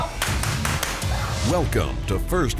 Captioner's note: gun clicks; voiceover